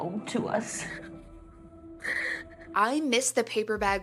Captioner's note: yellow sweater crying